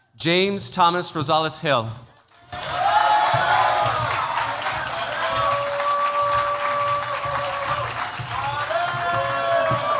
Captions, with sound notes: James Thomas Rozolis-Hill. [CHEERS, APPLAUSE]